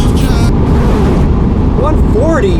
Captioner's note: record screeching